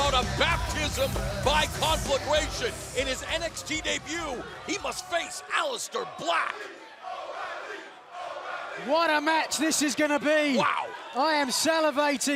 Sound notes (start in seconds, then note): 8.3 fans chanting